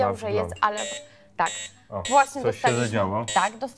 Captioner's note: sound signal